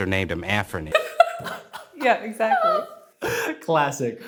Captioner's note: laughs